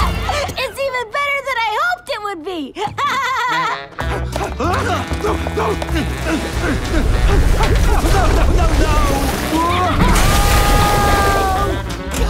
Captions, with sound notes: It's even better than I hoped it would be! [laughing] [panting] No, no. No, no, no, no! [screams]